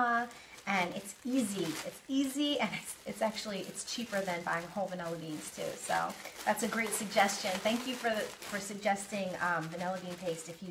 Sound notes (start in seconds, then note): none